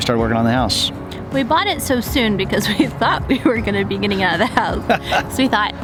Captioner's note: laughs